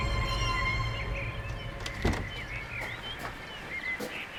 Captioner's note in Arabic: زقزقة الطيور